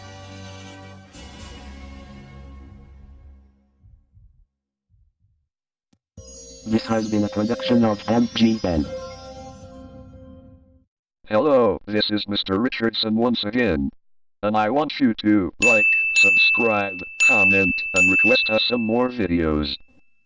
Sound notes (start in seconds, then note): 3.8 heart beating